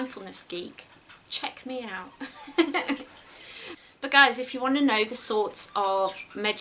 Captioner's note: giggles